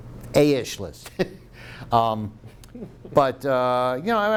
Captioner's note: laughs